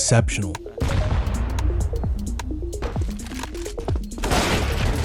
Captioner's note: bomb exploding; gunshot firing